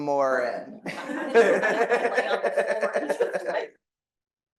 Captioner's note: audience laughing